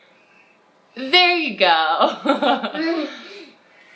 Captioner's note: chuckles